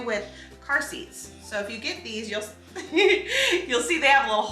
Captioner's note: laughs